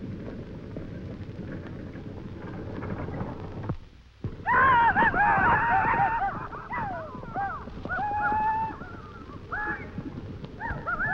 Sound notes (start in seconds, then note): 4.5 men shouting